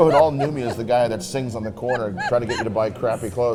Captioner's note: Mrs. Claus laughing